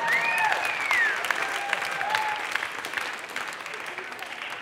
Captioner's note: audience clapping